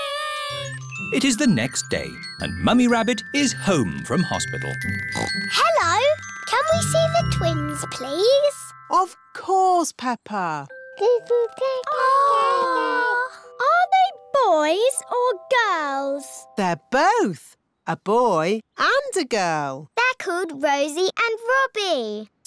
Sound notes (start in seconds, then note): 5.1 oinks; 11.9 babies gurgle